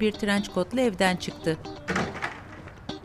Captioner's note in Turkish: Kapı kapanma sesi